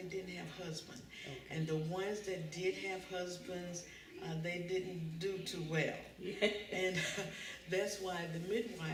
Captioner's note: laughter